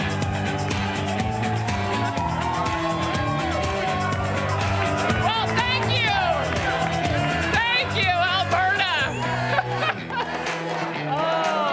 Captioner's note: cheering